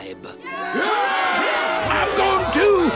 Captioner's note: tribes cheering